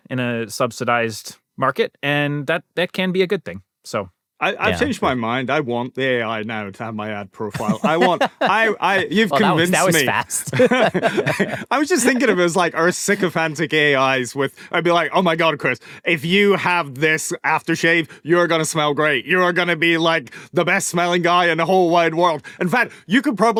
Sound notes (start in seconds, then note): 10.2 laughter